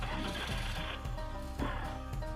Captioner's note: motorcycle engine revs; bright upbeat music